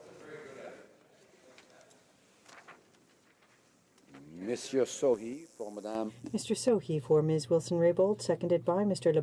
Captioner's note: speaking in French